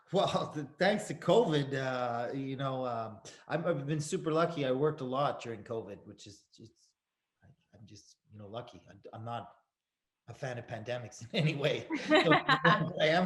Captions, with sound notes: - Well, thanks to COVID, you know, I've been super lucky. I worked a lot during COVID, which is, I'm just, you know lucky. I'm not a fan of pandemics anyway. (Tim chuckles) (Sarah laughs)